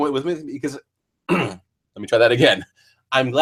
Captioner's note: cough